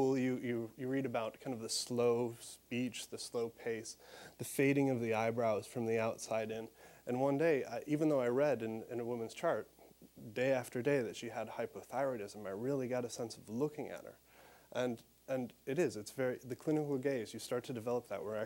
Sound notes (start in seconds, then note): none